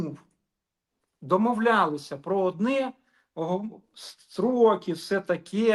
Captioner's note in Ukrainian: сопіння